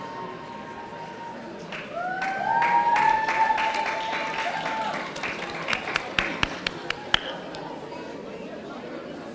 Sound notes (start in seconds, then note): 1.8 audience cheering